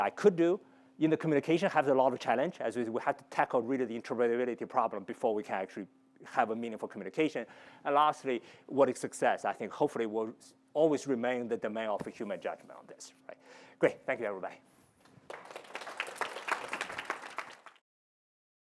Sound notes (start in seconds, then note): 15.1 applause